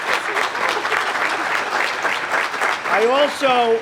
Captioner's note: applause